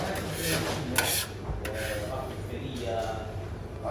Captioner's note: scrapping on surface